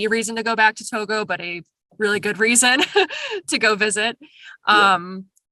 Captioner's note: laughs